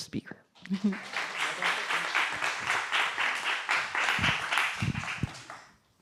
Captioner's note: applause